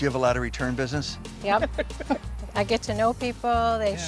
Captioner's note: laughs